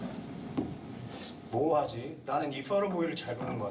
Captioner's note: speaking Japanese